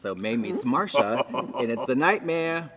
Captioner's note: Trixie laughs